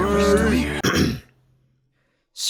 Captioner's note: clears throat